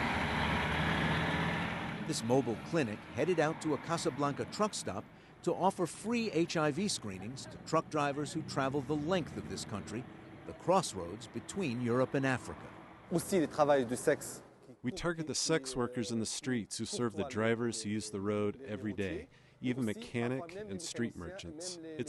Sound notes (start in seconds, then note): 13.9 through translator